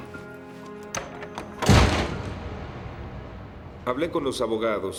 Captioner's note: door slams